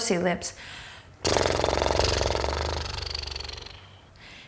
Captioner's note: blows raspberry